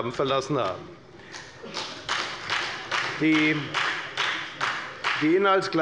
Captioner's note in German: Beifall bei der FDP